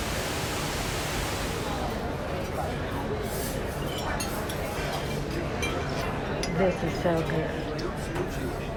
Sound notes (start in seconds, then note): 1.4 cutlery clinking; 1.4 patrons chattering